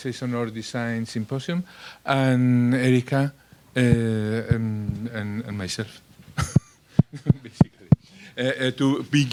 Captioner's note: laugh